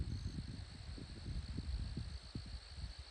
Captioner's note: wind blowing